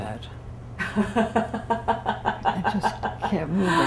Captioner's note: laughter